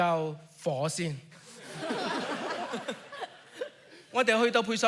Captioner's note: audience laughs